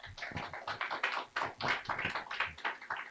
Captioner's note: clapping